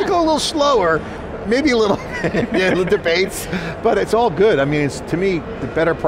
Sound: laughs

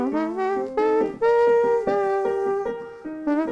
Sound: imitating trumpet playing

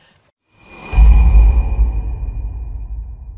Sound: shink

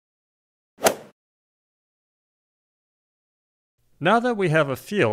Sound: golf swing sound effect

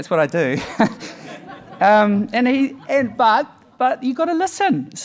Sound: audience laughing

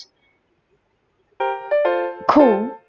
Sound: eerie silence

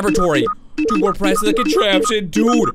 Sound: electronic beeping

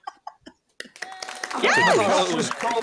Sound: applause

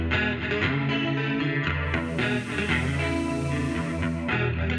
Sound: loud water flowing

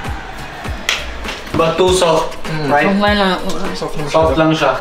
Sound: speaks in foreign language

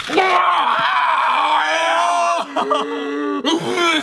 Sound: yelling

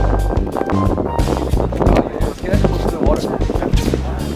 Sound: wind blowing loudly

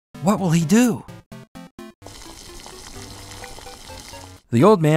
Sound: cooking noise

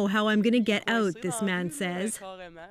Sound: speaking French

